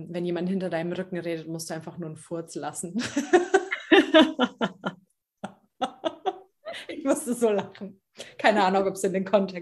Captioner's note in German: lachen